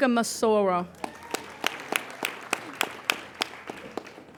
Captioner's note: applauding